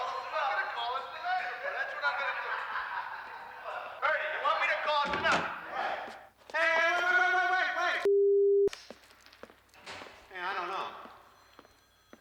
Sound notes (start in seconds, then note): 0.9 laughing